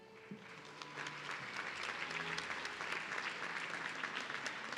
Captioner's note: audience clapping